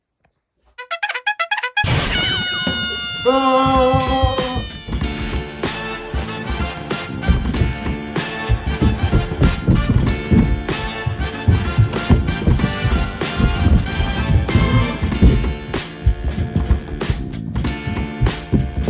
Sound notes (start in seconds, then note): 0.5 cartoon horns; 4.8 80s chase music; 7.3 running footsteps